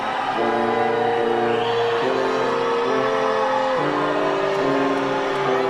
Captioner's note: audience cheering